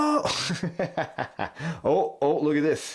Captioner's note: laughs